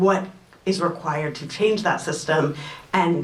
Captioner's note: none